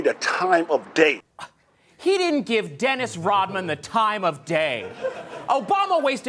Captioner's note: scoffs